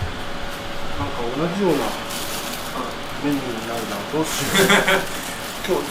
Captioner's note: laughs